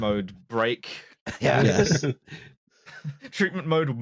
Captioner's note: laughter